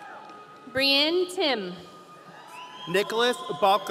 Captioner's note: audience cheering